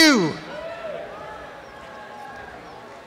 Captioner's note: cheering and applause